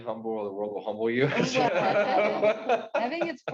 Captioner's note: participants laughing